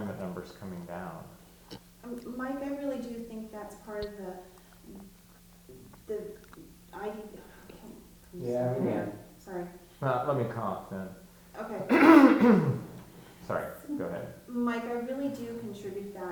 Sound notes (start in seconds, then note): 11.7 coughing